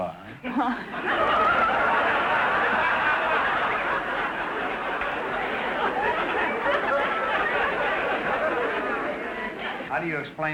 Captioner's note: audience laughter